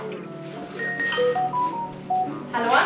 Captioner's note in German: Telefon klingelt